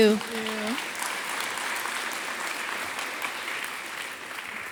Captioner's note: audience applauding